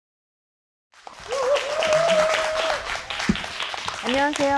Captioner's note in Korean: 환호